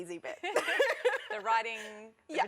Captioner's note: laughter